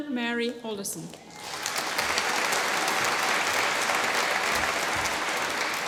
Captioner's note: applause